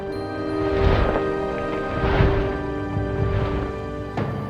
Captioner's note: soldiers stomping